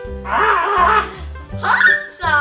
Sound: shark screams

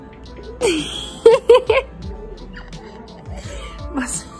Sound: laughs

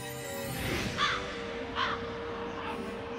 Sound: cawing

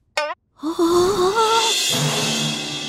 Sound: gasping

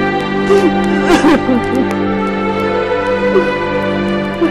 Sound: crying

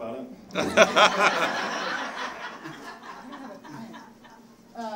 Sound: audience laughing

